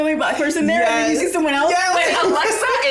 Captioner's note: laughs; all laugh